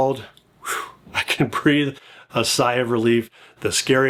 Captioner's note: sighs